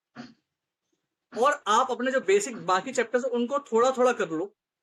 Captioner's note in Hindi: गला साफ़ करने की आवाज़